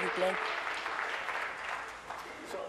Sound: applause

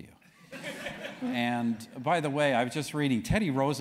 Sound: laugh

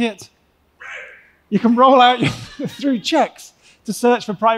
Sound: laughs

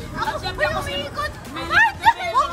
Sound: laughs; panics

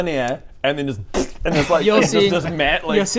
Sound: pffpft

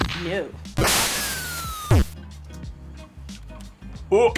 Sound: explosion echoes

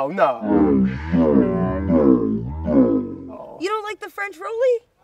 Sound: slow motion audio

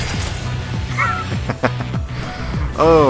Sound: laughing

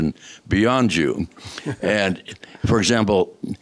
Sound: laughter

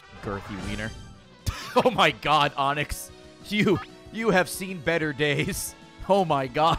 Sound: laughs

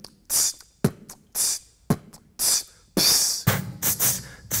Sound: beatboxing

